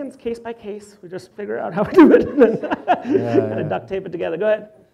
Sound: laughs

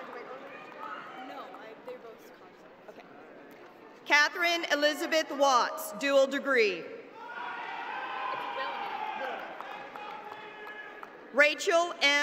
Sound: cheers and applause

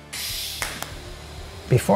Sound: machine hissing

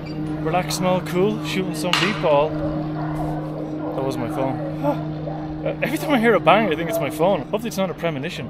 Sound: sigh in relief

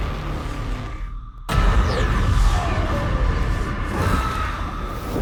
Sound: yells

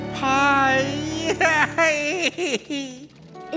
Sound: crying

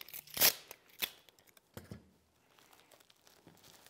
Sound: tape ripping

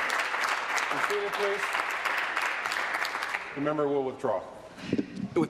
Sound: applause

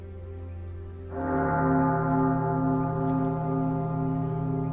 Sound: bell tolls

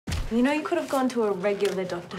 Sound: thudding

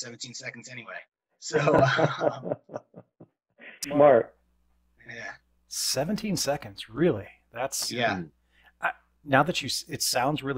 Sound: chuckle

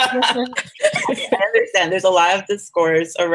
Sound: laughs

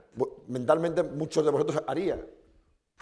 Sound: speaking spanish

